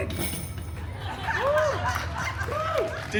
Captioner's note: guests cheering and laughing